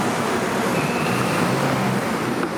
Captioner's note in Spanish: Tráfico vehicular